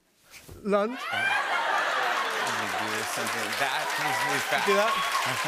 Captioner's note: cheers and applause; laughter